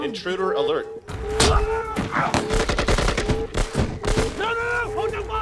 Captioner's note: guns firing; alarm blaring